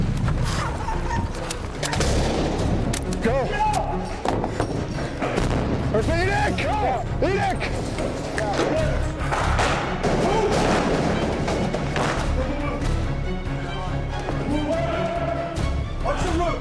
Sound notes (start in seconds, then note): 0.1 explosions; 5.5 yelling and Explosions